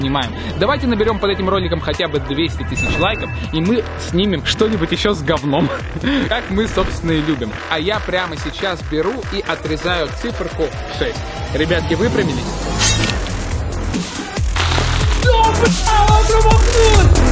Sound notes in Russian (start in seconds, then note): 5.4 смеется